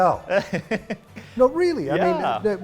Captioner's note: laughing